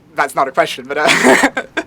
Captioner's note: laughs